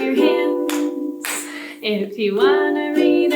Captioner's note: clap, clap